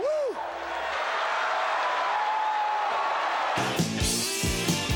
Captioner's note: audience applauds; upbeat music